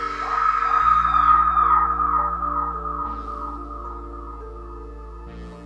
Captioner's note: person screaming; tense music